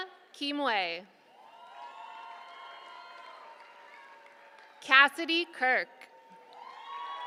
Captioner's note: applause